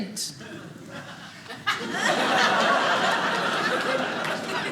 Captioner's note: audience laughing